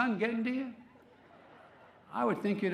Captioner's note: laughter